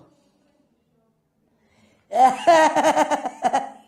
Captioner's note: <i>laughs</i>